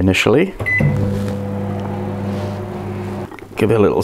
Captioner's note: microwave buzz